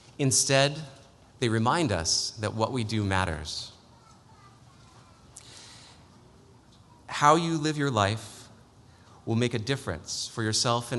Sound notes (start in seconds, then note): none